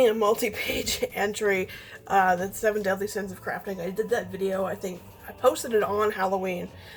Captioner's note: laughs